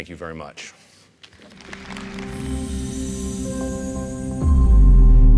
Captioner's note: audience applauding; gentle music